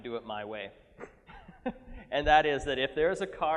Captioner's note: laughing